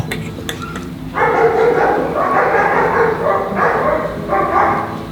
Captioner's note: dogs barking